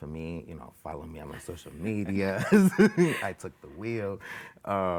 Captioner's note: laughing